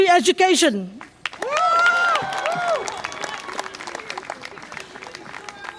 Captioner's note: audience applause and cheer